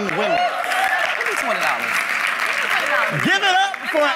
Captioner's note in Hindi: भीड़ की वाहवाही; वाहवाही